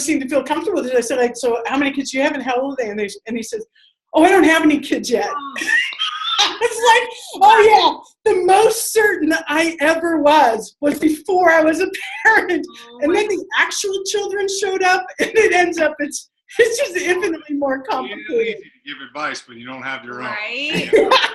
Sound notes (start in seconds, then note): 5.6 laughter